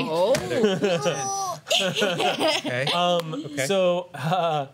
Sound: laughter

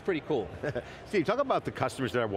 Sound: laughter

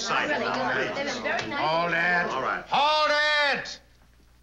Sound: shouting

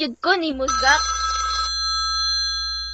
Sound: bell Ringing

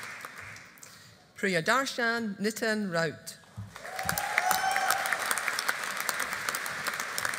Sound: audience applauding

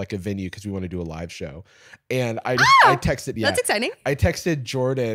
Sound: squeals

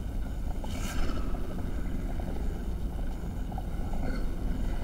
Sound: eerie, disembodied growling

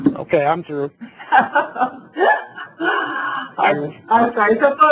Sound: laugh

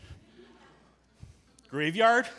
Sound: audience chuckling

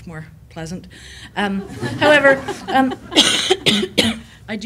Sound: laughter

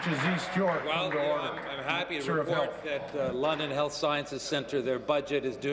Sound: applause

